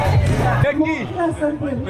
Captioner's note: speaking foreign language